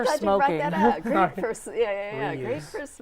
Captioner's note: laughing